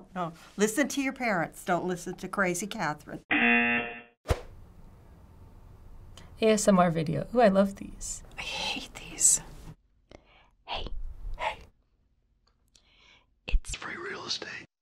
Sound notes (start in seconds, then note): 9.3 girl whispering; 10.7 whispering; 11.7 girl whispering